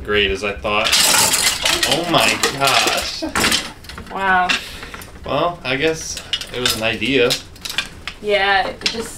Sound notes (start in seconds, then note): 0.8 hangers clattering